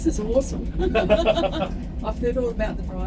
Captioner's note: laughing